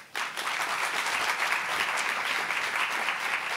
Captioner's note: applauding